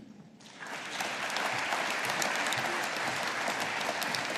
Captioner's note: audience applauding